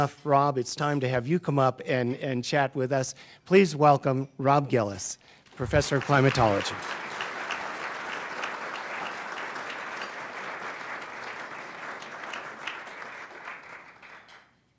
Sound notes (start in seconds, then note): 6.4 applause